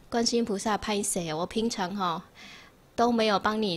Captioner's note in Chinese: 台語